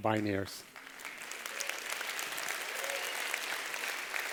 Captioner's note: applause